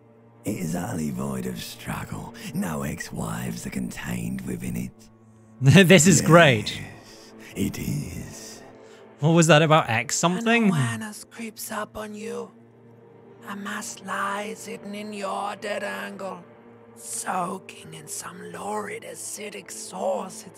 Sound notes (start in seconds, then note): 5.7 laugh; 10.9 Limbic System: raspy voice